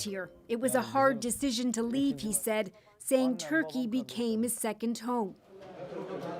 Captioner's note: speaking alternate language